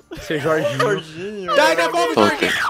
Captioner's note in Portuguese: chorando